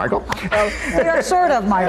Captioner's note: all laughing